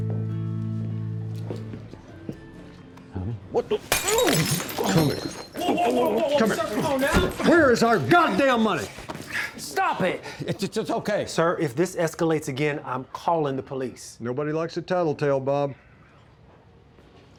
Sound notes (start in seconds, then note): 3.8 glass breaking